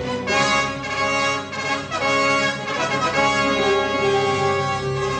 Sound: horns blaring

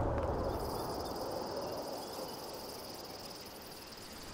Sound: bugs chirping

